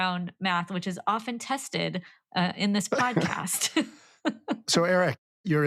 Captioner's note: laughing